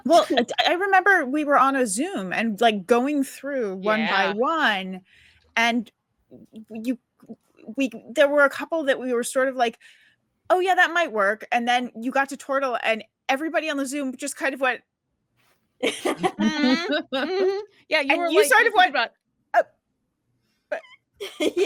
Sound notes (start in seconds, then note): 16.0 cast laughing